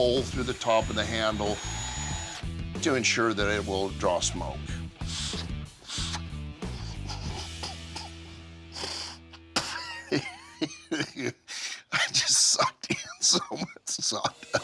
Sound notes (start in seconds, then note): 6.7 coughs; 6.7 spits